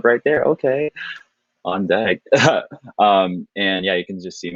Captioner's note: chuckling